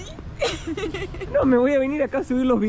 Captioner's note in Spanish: Risas